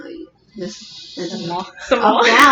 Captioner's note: inhale